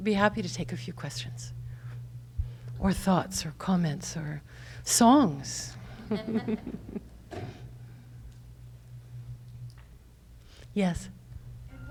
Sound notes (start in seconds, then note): 6.0 laughs